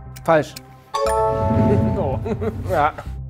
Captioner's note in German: Lachen